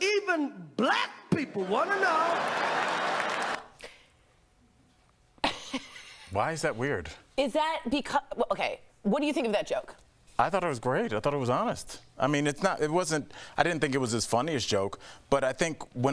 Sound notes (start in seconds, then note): 5.4 laughter; 8.4 laughter